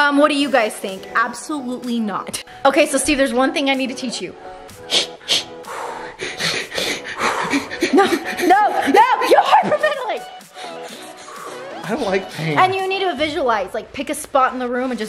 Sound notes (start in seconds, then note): 4.4 deep breathing; 10.4 deep breathing